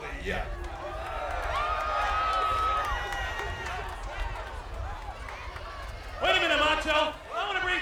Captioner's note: applause